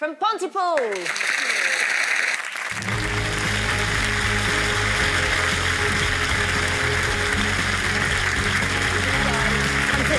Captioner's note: applause